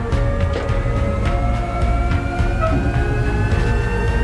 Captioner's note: jet engines whirring